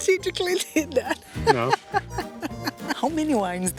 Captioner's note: laughs